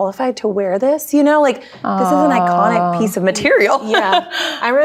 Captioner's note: laughs